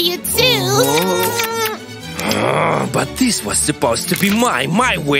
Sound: loud kissing sounds

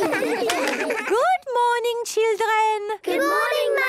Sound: claps

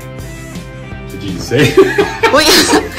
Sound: upbeat music; laughing

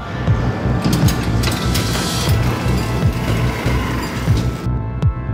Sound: elevator opens with tremendous noise support

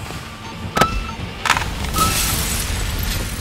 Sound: beeping

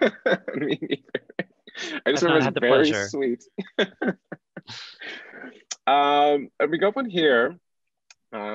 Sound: laughter

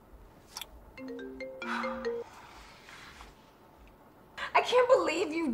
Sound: phone ringing; Bryan exhaling

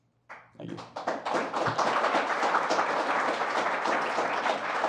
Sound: applause

